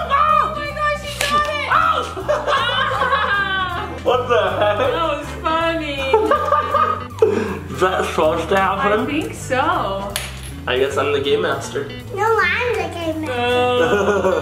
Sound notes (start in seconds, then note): 1.9 laughter; 5.9 laughing